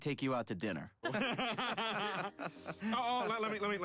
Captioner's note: group laughing